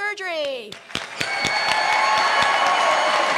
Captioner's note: cheers and applause